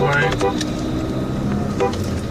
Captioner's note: car honking